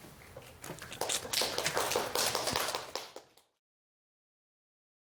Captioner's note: applause